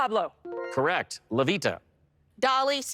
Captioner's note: bright chime